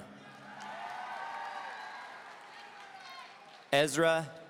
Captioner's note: audience cheering